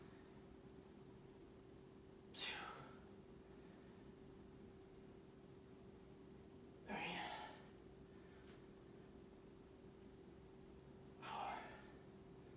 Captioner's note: inhaling and exhaling